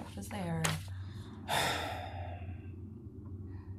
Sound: henry sighs

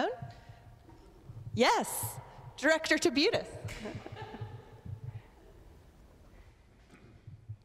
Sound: chuckles

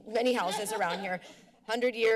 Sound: laughs

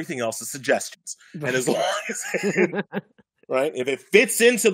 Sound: laughing

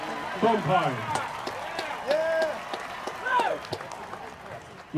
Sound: applause and cheering

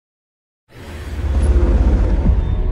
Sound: dark ominous music; logo whooshing

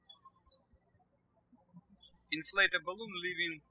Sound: birds chirping

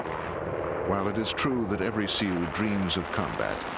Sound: voiceover

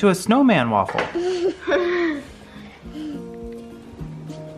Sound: laughs

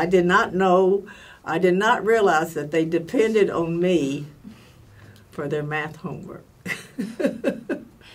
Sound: laughs

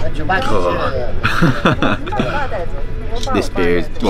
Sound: laughter

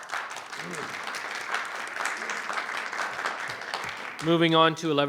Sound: audience clapping

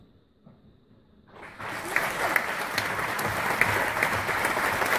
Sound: applause

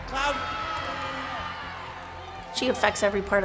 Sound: crowd cheering

